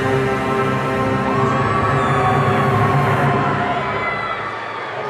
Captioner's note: audience cheering